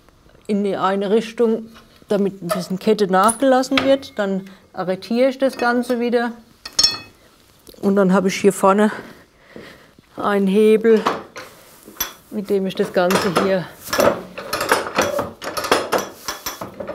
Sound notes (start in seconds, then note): 14.5 metallic clicking